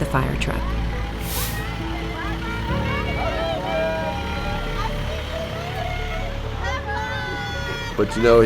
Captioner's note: several people waving bye and cheering